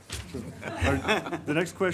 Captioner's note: everyone laughs